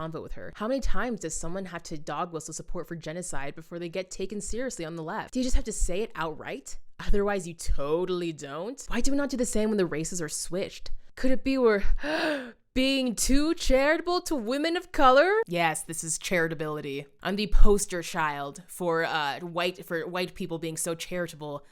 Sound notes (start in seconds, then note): 12.0 gasp